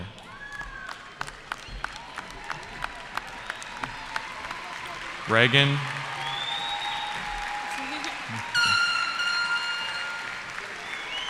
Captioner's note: cheering